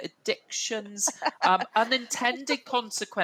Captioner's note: laughs